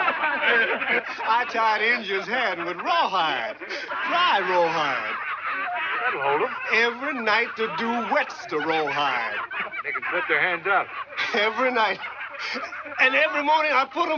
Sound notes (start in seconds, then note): 0.0 indians laugh; 4.1 indians laugh; 11.3 indians laugh